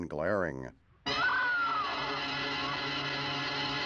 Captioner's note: screams